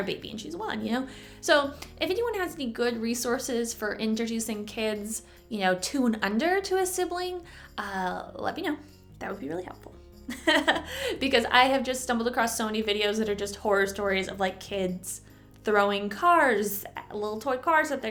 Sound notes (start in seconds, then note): 10.3 chuckle